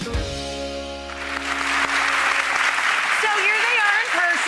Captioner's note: applause